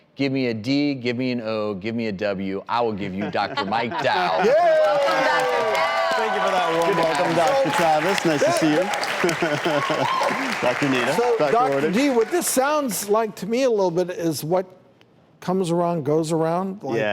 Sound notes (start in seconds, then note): 3.2 laughing; 9.1 audience clapping